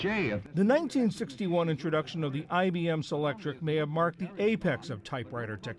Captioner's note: voice-over